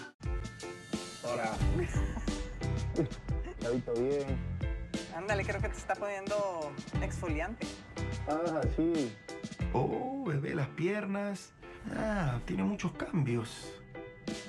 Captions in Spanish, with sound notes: Se puso rudo la cosa. [risas] Cuidadito. Ándale, creo que te está poniendo exfoliante. Ah, sí... Oh, bebé. Las piernas.